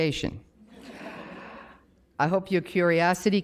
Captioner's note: audience laughs